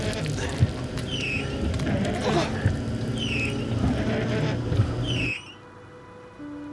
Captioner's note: intense music; Walter gasps; windshield wipers squeaking; gentle music